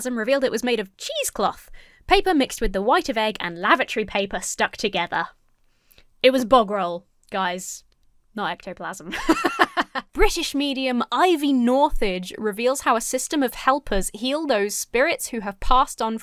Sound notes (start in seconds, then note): 9.1 laughs